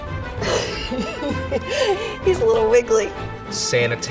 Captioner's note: laughs